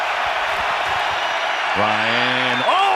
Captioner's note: brady shouting